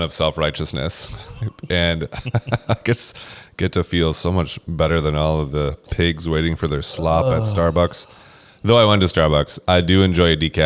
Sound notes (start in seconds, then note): 1.1 laughs